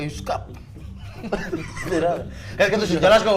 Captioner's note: chuckling